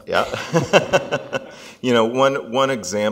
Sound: laughs

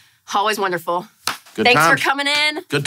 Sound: hand clap

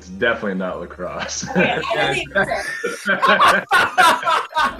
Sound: laughing

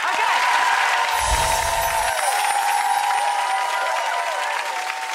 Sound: audience cheering

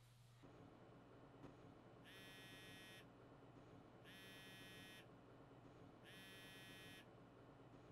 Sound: phone buzzing

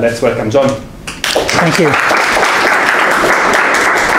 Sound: students clapping

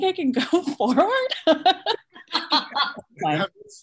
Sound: laughter

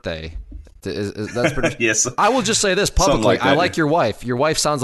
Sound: laughs

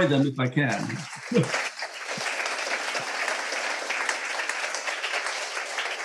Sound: audience applauding

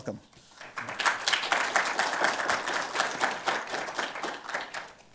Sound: audience applauding

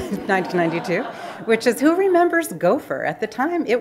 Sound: laughing

